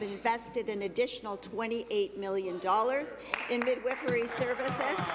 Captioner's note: applause